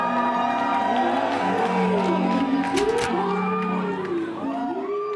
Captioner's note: crowd cheering